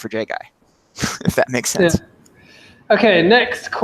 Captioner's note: chuckles